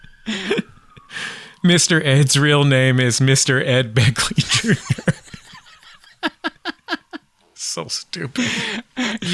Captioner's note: laughter